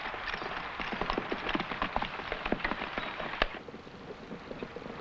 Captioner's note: horse hooves pattering